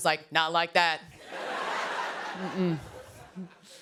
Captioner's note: laughter